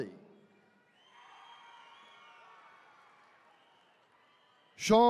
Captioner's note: attendees cheering